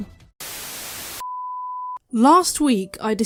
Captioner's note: static